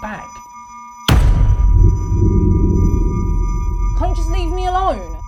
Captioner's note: dramatic beat thuds; high-pitched tone ringing